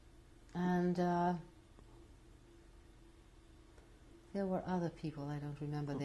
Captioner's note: pauses for 3 seconds